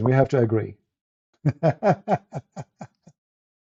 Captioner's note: Ketawa